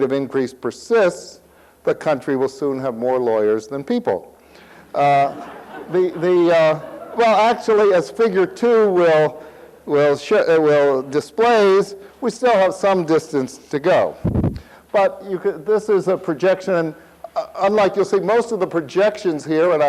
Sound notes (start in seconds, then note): 4.9 audience laughs